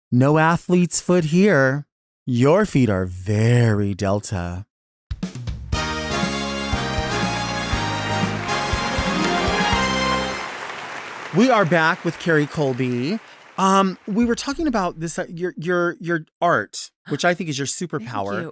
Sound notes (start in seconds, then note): 5.8 upbeat music; 6.8 audience applauds